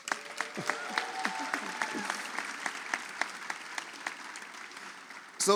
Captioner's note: audience applauds